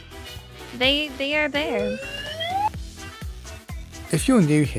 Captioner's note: slide Whistle